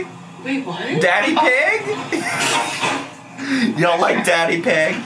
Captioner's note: laughs